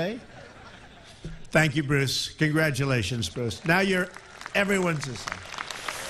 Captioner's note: laughter